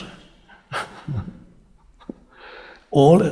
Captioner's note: chuckling